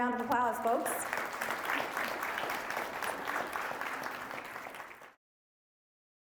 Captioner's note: applauding